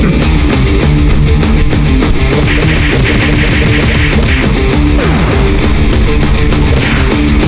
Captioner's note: sounds of blows and everything else